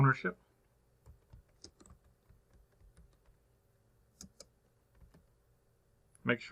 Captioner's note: typing